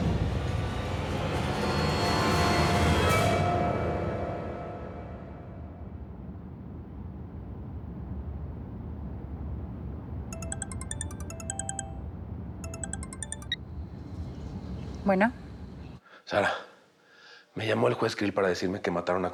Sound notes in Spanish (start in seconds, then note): 10.3 suena el celular